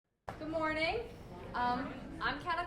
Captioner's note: voiceover